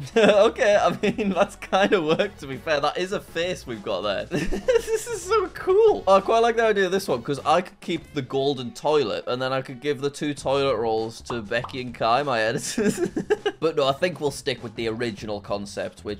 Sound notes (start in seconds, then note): 0.0 chuckles; 4.3 chuckles; 12.6 chuckles